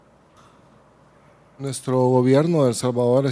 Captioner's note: speaking Spanish